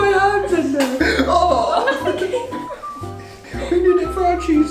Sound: gasps

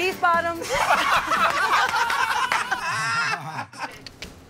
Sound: laughter and applause

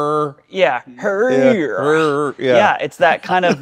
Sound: vocalizes

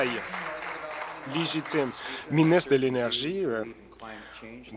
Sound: applause

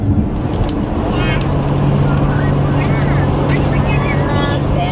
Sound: kids chattering

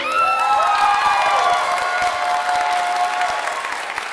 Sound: audience applauding

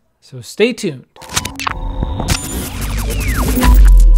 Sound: logo swoosh

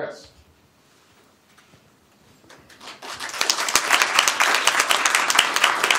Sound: applause

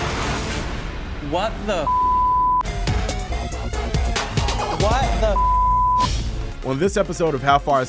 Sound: beep

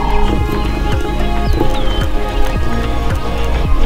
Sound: lions growling

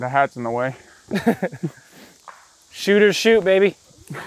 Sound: laughter

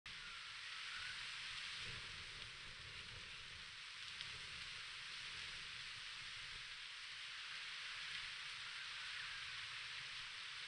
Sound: birds Sing as the wind blows through the trees

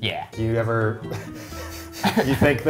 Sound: Awkward Eugene laugh

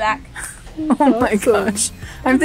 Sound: laughs

